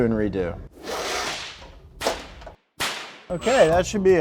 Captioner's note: wire threading